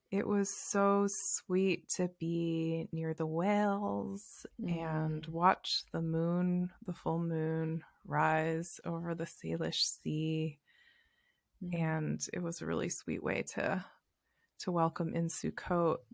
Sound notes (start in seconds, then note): none